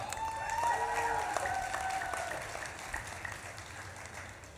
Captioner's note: audience claps and cheers